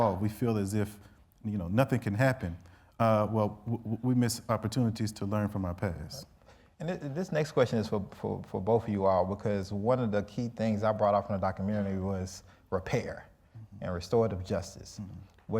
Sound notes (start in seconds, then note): none